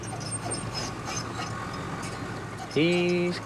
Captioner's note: squeaking